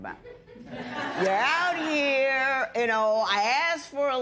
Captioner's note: laughter